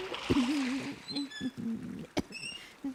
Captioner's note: splash; wheel squeaking